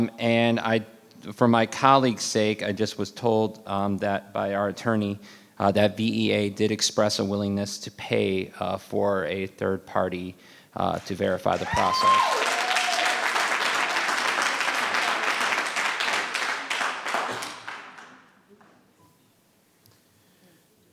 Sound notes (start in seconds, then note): 11.5 audience cheering; 11.5 audience applauding